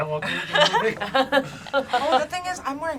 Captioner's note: laugh